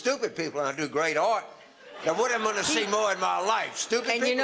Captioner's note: audience laughter